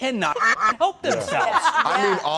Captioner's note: quack